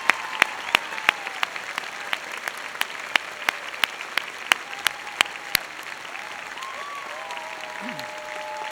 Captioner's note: applause